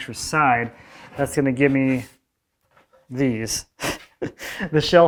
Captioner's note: laughing